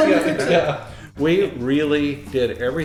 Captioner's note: laughing